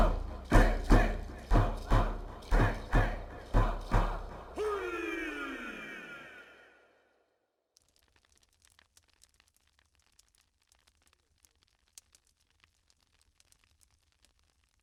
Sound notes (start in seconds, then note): 7.8 fire crackling